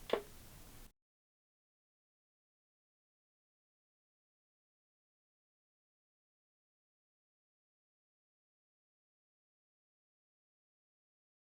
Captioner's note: static